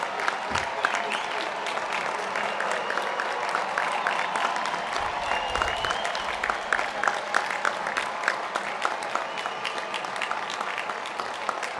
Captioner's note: applause